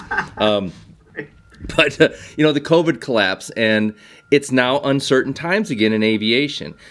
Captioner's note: laughter